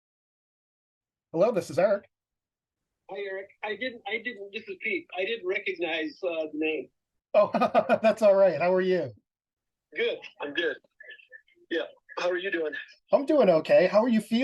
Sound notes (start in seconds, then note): 0.6 on speaker phone; 7.4 laughing